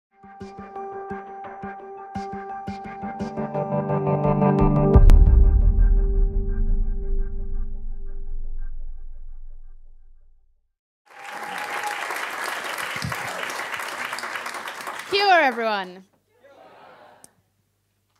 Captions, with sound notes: (gentle music) (audience applause) - Kia Ora everyone